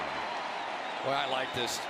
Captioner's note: cheering